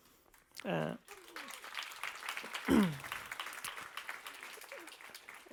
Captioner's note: applause